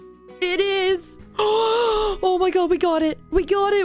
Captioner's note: gasp